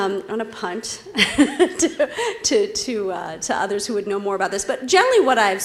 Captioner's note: laugh